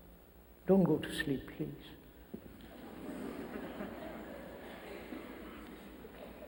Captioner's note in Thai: เสียงหัวเราะ